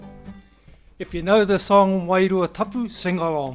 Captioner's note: speaking Maori; speaks Maori